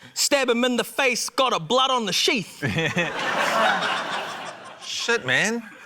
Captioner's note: laughter